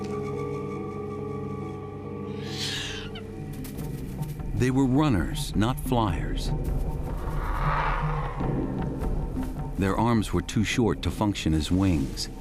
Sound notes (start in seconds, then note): 2.3 squawking; 7.2 growling